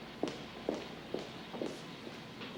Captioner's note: none